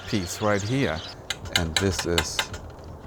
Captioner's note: tile clanking